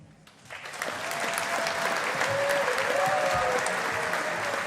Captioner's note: audience applauding